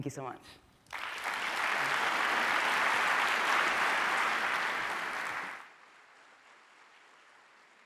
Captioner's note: applause